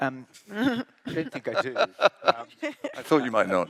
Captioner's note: laugh